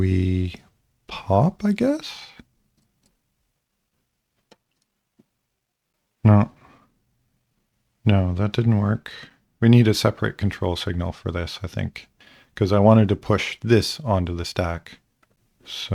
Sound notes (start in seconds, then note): 2.5 silence